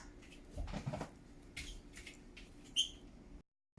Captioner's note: wet feet tapping on floor